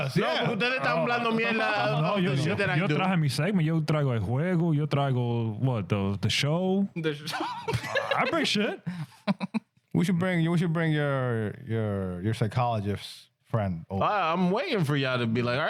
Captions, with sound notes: (Speaking In Foreign Language) What, the show? (Laughing) I bring shit. We should bring your psychologist friend. I'm waiting for y'all to be like, "All